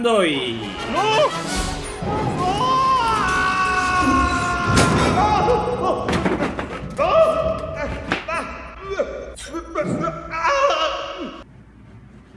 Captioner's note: screams and painful grunts that doesn't sound better in Latin Spanish